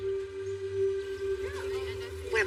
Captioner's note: chatter